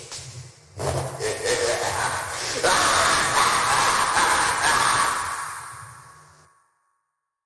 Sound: maniacal laughter

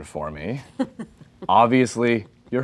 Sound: laughing

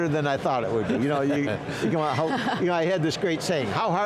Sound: laughing

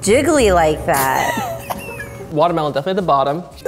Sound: laughs

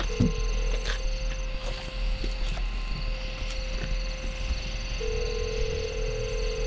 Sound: phone line rings

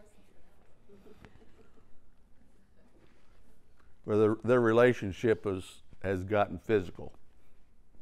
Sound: laugh

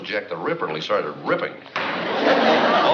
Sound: bang

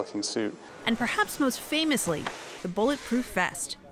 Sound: voice-over

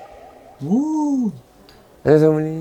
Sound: crying

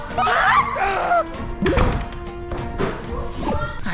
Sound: door closed

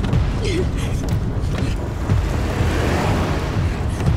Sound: Caitlyn grunting

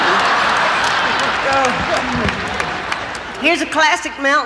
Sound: crowd laughing

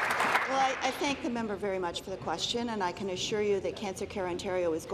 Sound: applause

